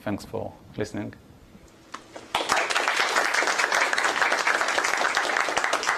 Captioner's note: applause